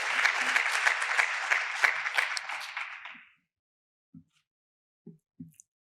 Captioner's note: applause